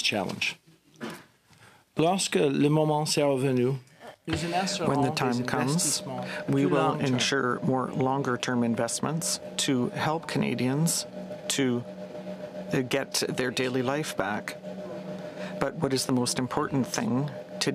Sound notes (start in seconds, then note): 5.3 speaking french